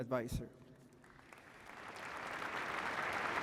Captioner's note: applause